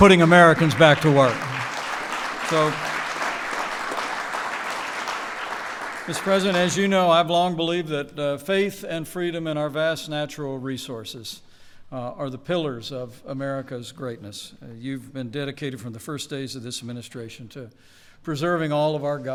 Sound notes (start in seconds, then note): 0.0 applause